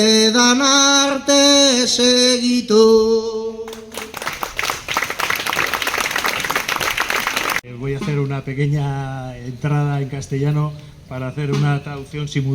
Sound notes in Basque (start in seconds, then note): 3.7 Txaloak